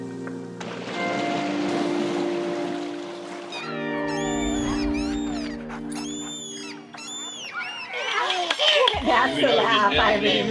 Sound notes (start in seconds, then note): 0.6 waves crashing; 3.1 seagulls calling; 7.4 laughter